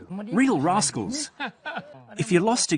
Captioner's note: laughing